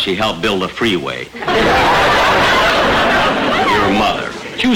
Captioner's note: audience laughter